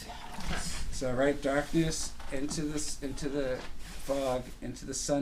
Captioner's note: voiceover